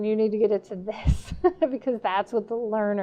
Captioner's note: laughing